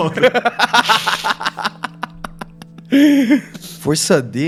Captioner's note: laughs